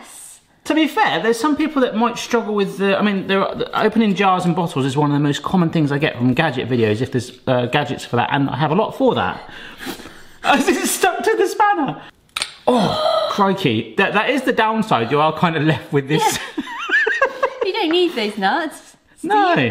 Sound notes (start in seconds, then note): 12.7 gasps; 16.2 laughs